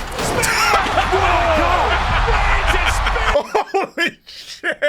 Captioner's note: laughing